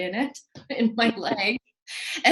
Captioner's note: laughs